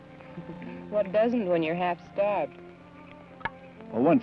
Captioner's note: chuckles